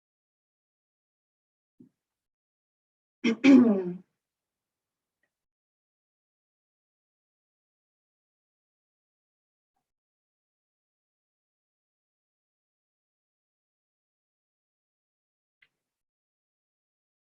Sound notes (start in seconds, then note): 3.2 ahem; 4.2 silence